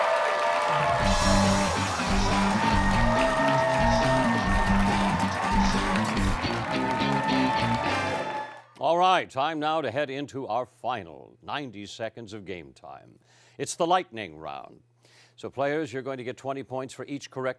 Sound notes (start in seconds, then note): 4.6 cheering and applause